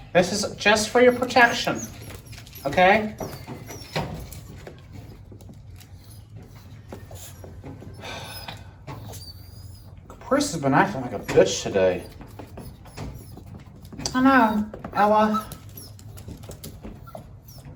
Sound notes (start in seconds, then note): 8.9 Ella whimpers, Caprice meows; 16.1 Ella whimpers